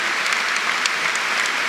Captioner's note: applause